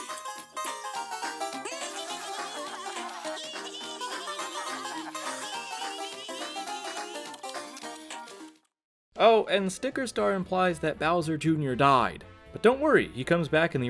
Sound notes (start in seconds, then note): 1.7 Toads, Luigi, and Princess Toadstool laughing; 7.0 chewing noises